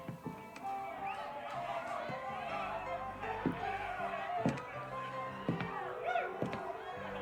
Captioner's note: audience cheering; audience shouting